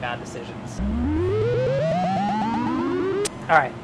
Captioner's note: humming